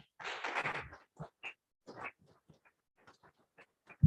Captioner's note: clapping